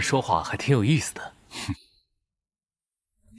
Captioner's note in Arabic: يضحك ساخرًا